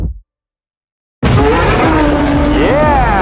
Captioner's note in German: aufheulender motor